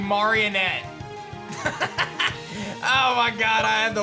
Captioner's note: laughs